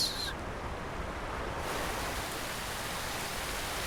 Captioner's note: water splashing